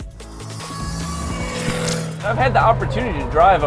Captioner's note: engine revving